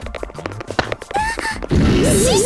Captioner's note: panicked cry